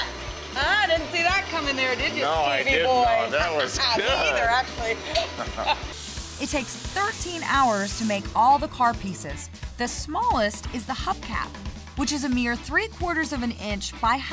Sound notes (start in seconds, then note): 5.3 laughing